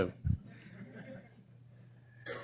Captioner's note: laughter